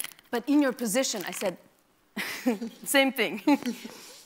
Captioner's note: laughs